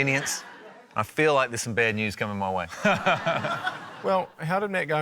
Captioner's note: laughter